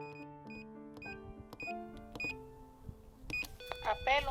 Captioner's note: buzzer